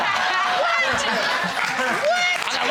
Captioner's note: laughter